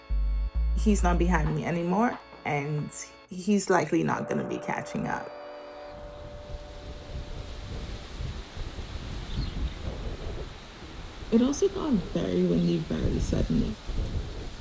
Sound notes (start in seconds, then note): 5.8 wind gusts